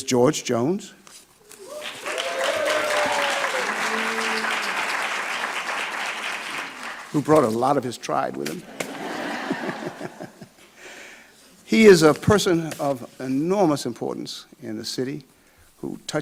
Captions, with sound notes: There's George Jones, (audience clapping) (audience cheering) who brought a lot of his tribe with him. (laughs) (audience laughing) He is a person of enormous importance in the city